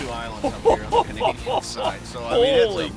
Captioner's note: laughing